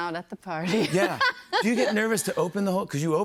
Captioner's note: laughs